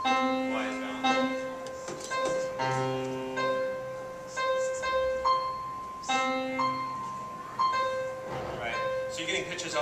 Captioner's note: computer dings a mixture of both low and high notes